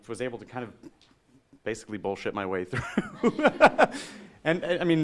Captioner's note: laughing